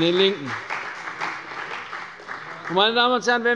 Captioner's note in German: Beifall bei der CDU